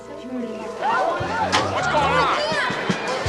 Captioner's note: people chattering